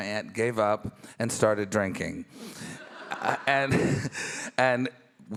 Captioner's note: chuckles